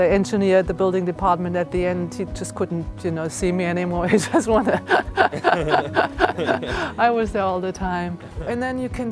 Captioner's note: laughs